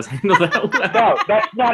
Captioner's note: laughing